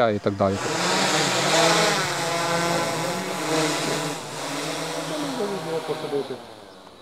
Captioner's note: drone buzzing